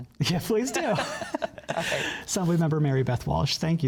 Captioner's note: laughter